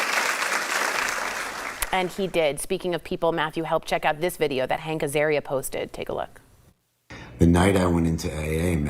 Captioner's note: applause